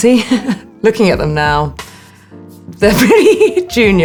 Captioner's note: Alexa chuckling